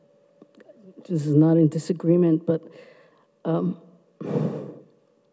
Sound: sighs

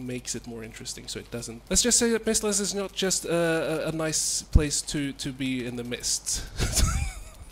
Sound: laughs

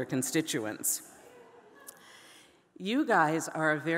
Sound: audience laughing

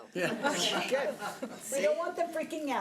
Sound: board member laugh

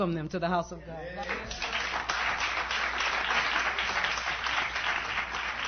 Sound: applause

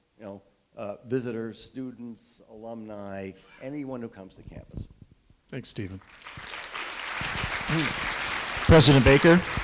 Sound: clapping

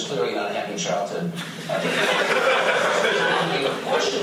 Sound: laughter

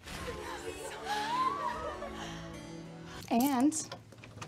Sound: gasps

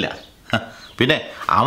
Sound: scoffs

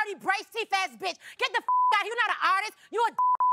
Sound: beep

